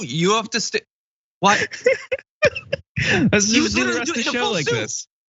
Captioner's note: laugh